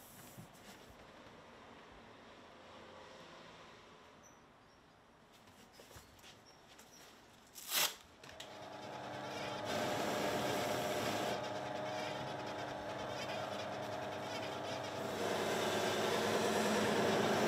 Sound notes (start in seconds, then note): 7.5 paper tears; 11.3 machine noise